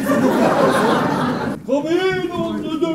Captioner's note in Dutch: publiek lacht